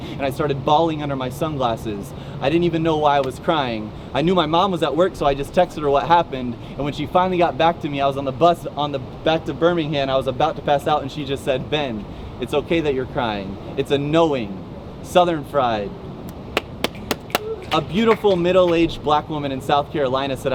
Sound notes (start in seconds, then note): 16.5 claps